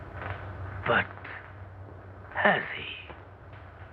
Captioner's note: In Doctor Meirschultz Voice